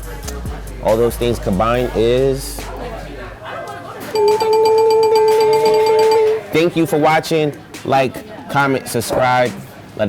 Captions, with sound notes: All those things combined is: (dinging noise) Thank you for watching. Like, comment, subscribe.